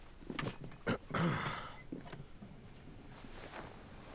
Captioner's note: clearing throat